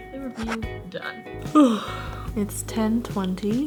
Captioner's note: yawning